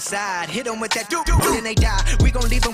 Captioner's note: doot, doot, doot